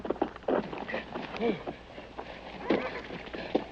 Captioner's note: man panting